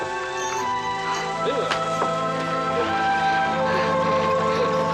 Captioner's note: mellow music; Miranda whimpering